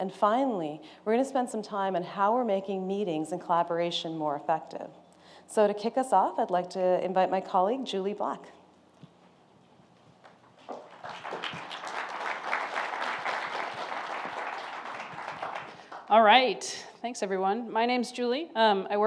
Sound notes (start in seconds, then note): 10.6 applause